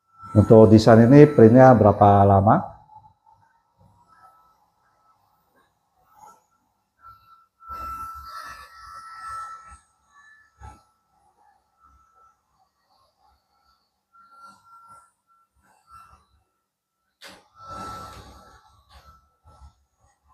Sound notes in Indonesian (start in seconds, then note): 3.7 printing